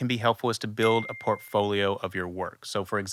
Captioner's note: bell chiming